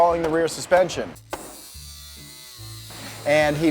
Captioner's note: metal grinding